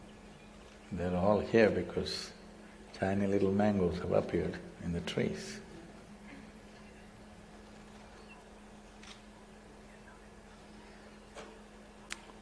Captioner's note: laughs